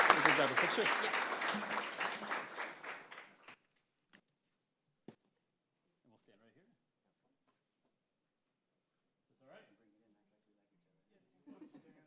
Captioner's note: applause